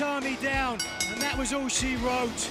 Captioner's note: bell ringing